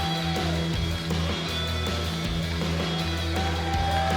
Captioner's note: crowd cheering